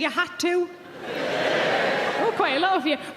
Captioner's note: audience cheering